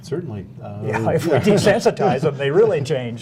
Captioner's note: laughter